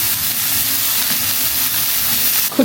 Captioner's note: sizzle sizzle